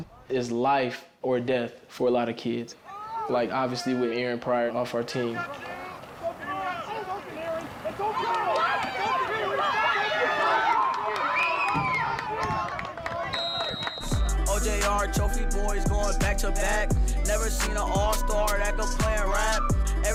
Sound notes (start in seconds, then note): 8.4 crowd cheers; 13.2 whistle blows